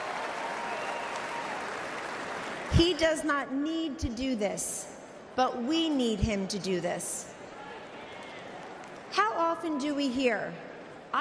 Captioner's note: applause